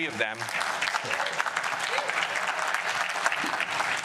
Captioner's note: applause